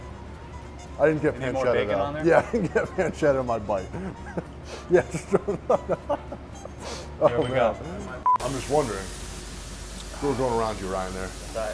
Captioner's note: laughing